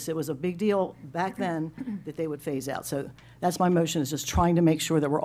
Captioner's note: clears throat